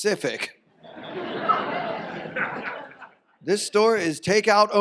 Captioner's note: audience laughs; audience laughs